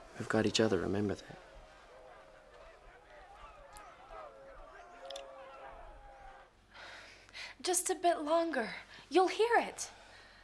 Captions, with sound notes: - We've got each other, remember that. (kissing) - Just a bit longer, you'll hear it.